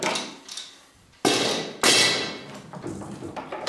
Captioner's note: metallic rattle